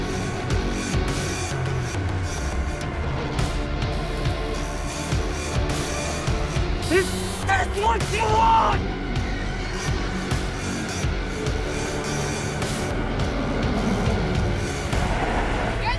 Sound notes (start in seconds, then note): 9.8 ghostly whispers; 13.5 engine revving